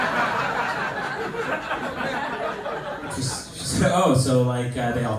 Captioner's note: laughter